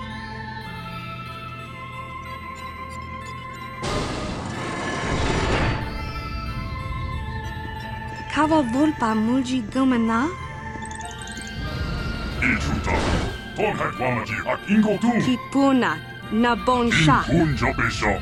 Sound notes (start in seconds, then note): 12.3 this droid is speaking a language you do not recognize